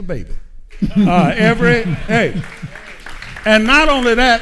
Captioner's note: audience applauding